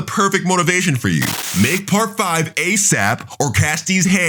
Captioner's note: TV static running